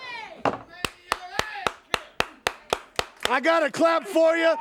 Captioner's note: Tully claps